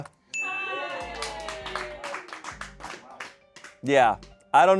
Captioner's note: bell dings; audience cheering